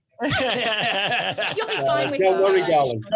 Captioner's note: everyone laughs